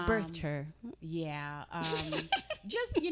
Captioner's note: laughing